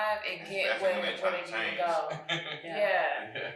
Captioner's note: chuckles